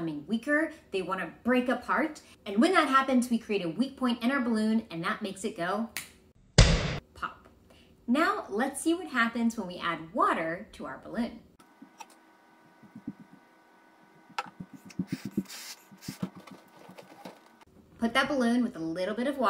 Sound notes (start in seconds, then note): 6.5 pop